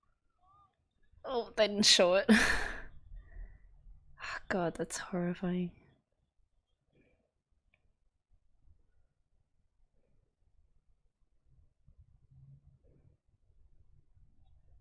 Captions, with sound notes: Ugh - they didn't show it. [relieved laugh] Oh god, that's horrifying.